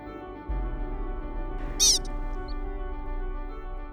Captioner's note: Pika call